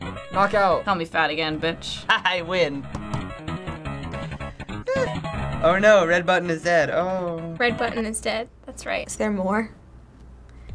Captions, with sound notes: - Knockout. - Call me fat again, bitch. - Haha, I win. "Oh no! Red button is dead!" (feigning interest) Oh. - "Red button is dead." That's right. - Is there more?